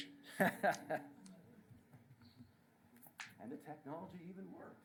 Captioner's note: laughter